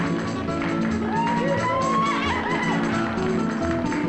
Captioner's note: crowd cheering